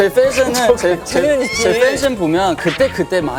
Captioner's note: cracking up